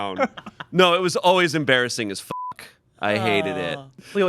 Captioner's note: beep